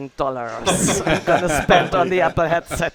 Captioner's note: laughing